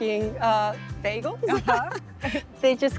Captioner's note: laughter